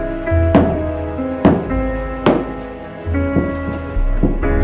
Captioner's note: ominous orchestral music; hammer banging